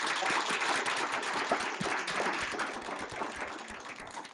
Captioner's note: applause